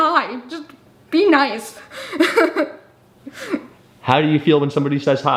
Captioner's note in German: lacht